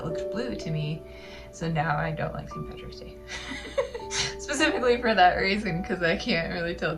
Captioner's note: laugh